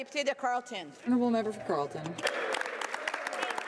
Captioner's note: speaking French